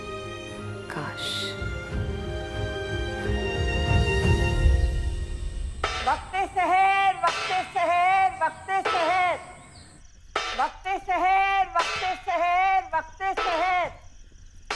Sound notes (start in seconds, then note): 6.0 Shaggo beating a plate